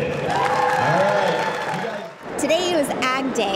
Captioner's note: audience cheering